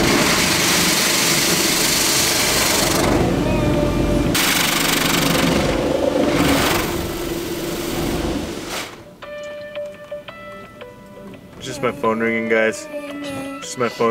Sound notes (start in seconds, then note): 9.6 phone ringing